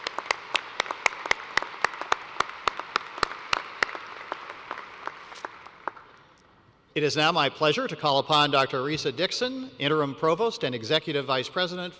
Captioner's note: applause